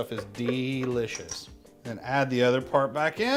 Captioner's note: tapping